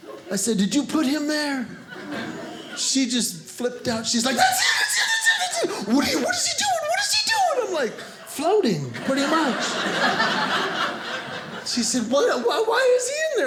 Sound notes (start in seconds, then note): 8.8 audience laughing